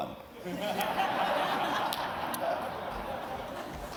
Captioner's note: laughter